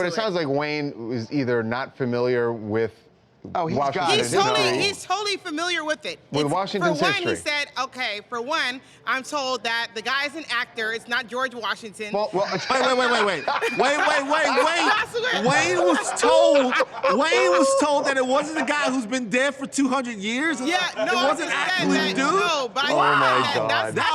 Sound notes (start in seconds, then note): 14.5 laughter